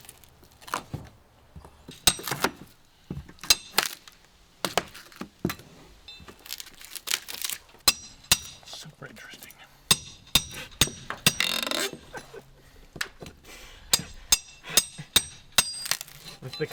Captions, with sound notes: (hammer banging) - Super interesting.